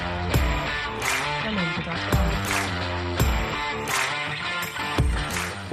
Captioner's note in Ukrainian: оплески